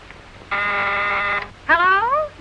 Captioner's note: buzzer